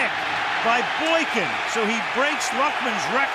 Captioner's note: crowd cheering